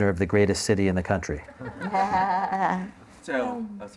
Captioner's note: laughter